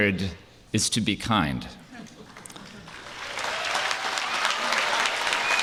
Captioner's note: applause